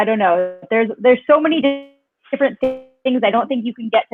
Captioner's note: speaks faintly